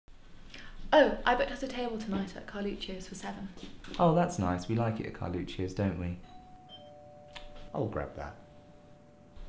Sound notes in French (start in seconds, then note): 6.2 sonnette